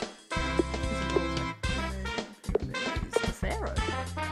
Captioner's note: mumbles to herself